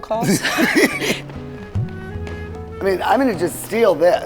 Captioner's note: laugh